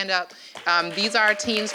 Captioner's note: applause